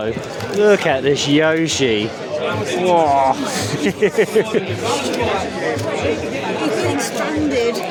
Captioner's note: laughs